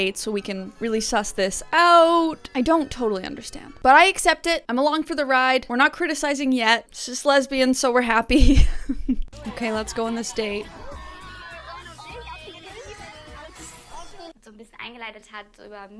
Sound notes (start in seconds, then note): 8.4 chuckles